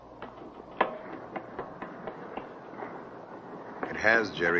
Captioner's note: footsteps receding